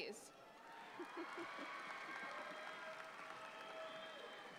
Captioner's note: audience applauds